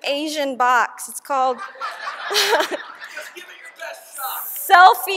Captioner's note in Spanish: y todos se ríen!!